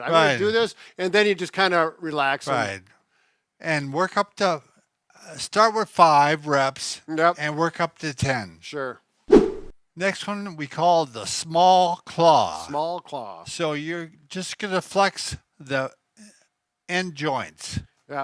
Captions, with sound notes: I do this, and then you just kind of relax. - Right. And work up to start with five reps. - Yup. - And work up to 10. - Sure. (whip sound) - Next one we call the small claw. - Small claw. - So, you're just going to flex the end joints.